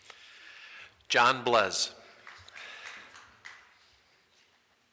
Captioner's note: small group applauds